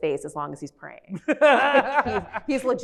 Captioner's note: laughs